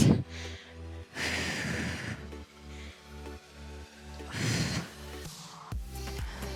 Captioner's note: upbeat music continues; exhaling